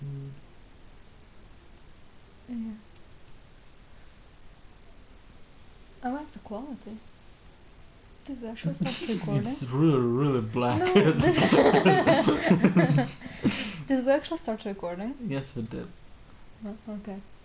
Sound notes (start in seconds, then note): 10.5 laughs; 10.6 more laughing